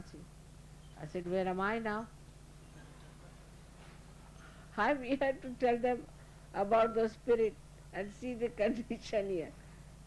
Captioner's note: Shri Mataji laughing & laughter